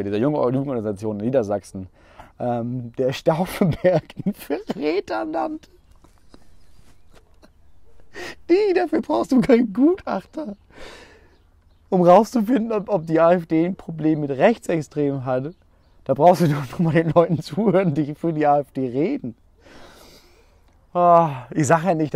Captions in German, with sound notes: dieser Jugend- organisation Niedersachsen, der Stauffenberg einen Verräter nannte. *Gelächter* Diggi, dafür brauchst du keinen Gutachter. Um rauszufinden, ob die AfD ein Problem mit Rechtsextremen hat. Da brauchst du doch nur mal den Leuten zuhören, die für die AfD reden. Ich sage ja nicht,